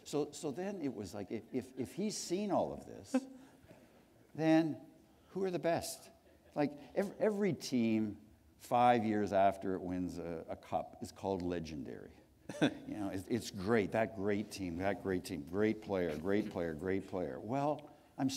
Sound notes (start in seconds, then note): 12.4 chuckle